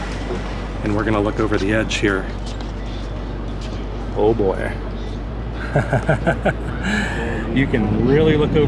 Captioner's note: laughter